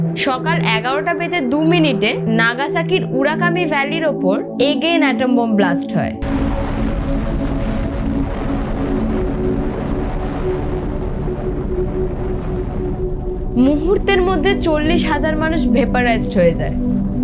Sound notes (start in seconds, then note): 6.2 atomic Bomb Explosion